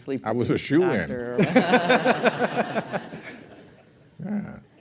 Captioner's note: laughter